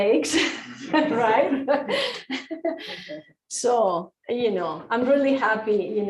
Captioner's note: laughter